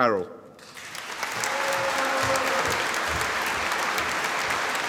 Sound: audience applauding

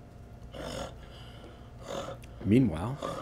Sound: growling

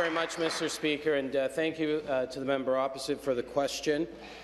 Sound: applause

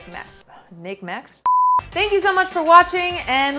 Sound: beep

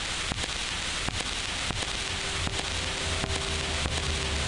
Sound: static buzzing

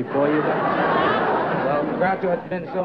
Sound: laughs

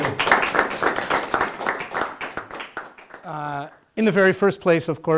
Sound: audience applauding

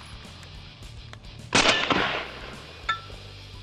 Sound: fires

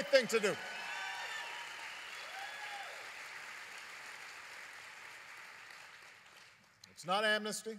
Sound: applause

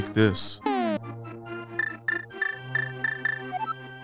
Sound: beep sound

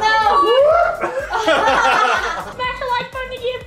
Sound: laughing

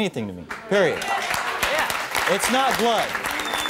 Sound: applause

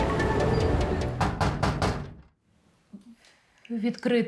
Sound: knock on door

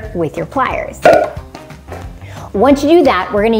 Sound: marker pops

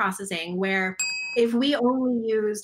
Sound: bell dings

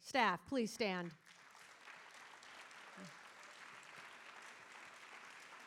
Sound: audience applauding

